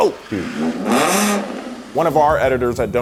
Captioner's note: engine revving